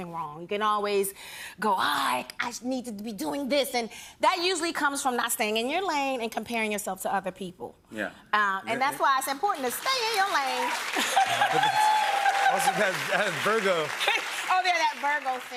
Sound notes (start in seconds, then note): 9.5 applause